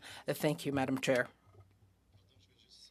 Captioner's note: speaking French